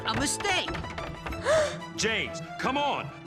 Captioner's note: gasps